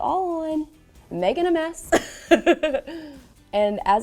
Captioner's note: laughs